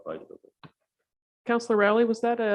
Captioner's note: speaks faintly